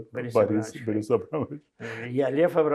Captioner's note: laughing